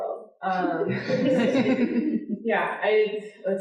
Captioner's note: audience laughing